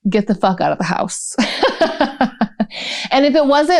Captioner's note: laughter